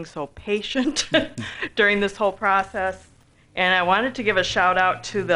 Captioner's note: laughs